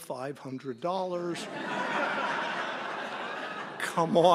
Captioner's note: laughter